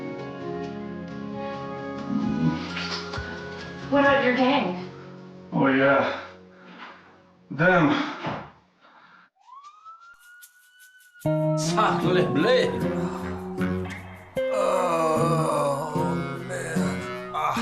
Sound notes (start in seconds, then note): 2.6 kiss smacking; 9.3 siren blaring